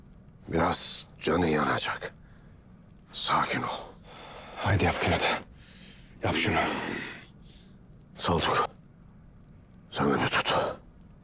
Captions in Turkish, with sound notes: Biraz canın yanacak. Sakin ol. [Nefes Sesleri] Haydi yap Kün Ata... ...yap şunu. Saltuk, sen beni tut.